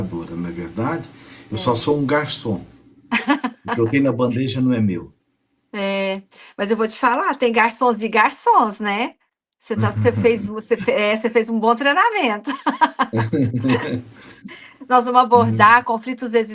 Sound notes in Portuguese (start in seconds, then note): 12.4 risadas